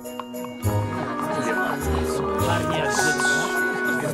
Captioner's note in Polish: zaciekawione rozmowy